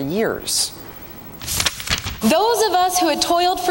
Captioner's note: page turns